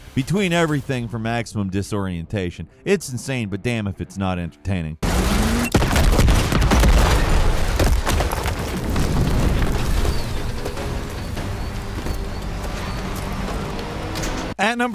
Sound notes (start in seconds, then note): 5.0 gun blasts; 11.9 dramatic music